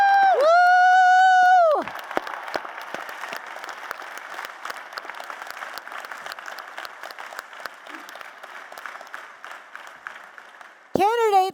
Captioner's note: applause